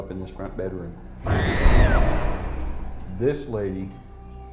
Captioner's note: girl screaming